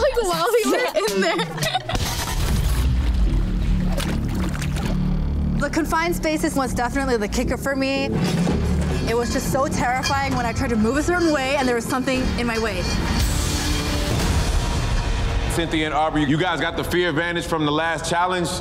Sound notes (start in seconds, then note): 0.0 laughing; 2.3 dramatic music; 2.3 scene whooshing; 4.3 ominous music; 4.3 water splashing; 8.1 metal clanging; 13.2 dramatic music; 13.2 metal clanging